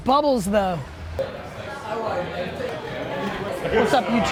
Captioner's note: restaurant patrons chatter